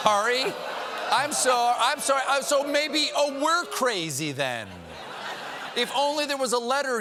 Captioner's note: laughter